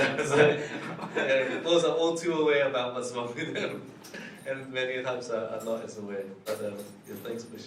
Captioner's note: laughs